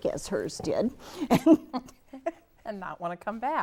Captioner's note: laughs